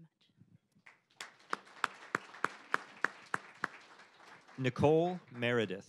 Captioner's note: applause